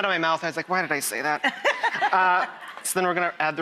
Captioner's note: laughter